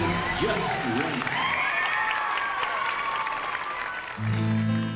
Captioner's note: cheering